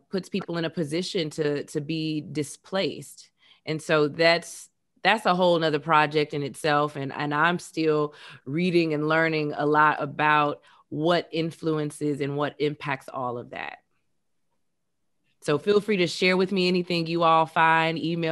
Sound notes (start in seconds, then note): none